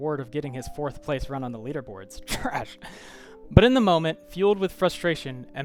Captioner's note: scoffing, under breath